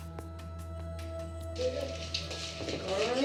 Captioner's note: indistinct chatter